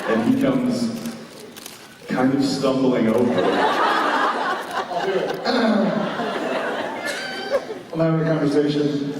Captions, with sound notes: And he comes... Kind of stumbling over. I'll do it! [Jared clears throat] I'm having a conversation.